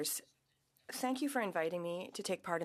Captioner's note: speaking French